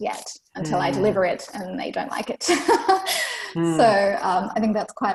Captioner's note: laughs